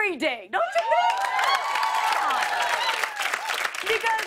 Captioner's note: cheers and applause